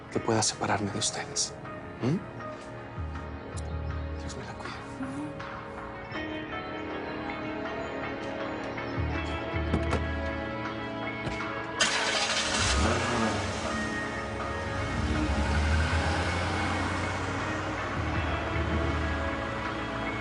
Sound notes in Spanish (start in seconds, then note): 11.7 Sonido del carro